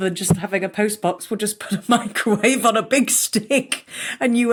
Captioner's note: giggles